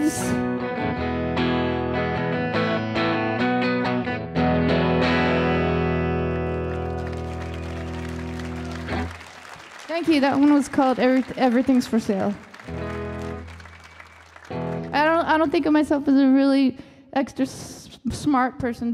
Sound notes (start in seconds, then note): 0.3 light guitar music; 6.9 audience applauding